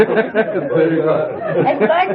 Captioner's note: laughter